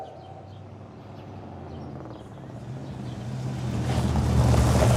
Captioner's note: car rumbles